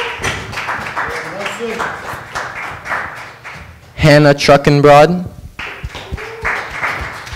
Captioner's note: applause